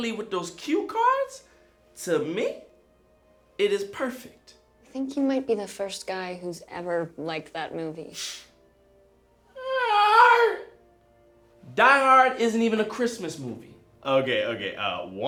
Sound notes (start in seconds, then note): 9.6 man shouts